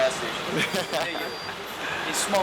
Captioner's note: person chuckles